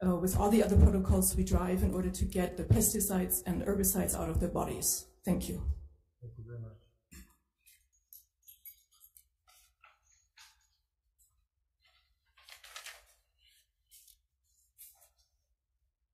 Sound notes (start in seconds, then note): 11.8 papers rustling